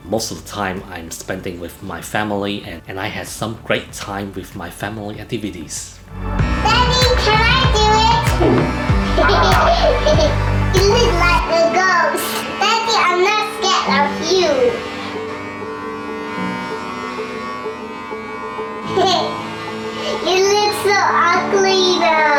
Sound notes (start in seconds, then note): 12.5 laughs